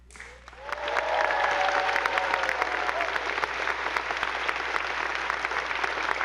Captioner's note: attendees applauding; audience cheering